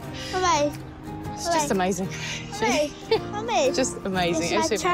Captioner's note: laughs